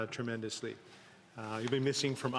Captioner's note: speaking French